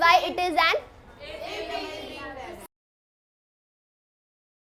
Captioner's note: students talking